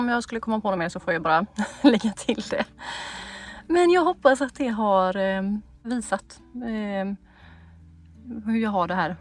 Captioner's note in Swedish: skratt